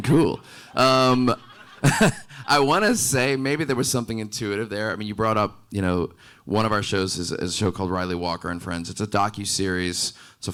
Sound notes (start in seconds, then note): 1.0 laughing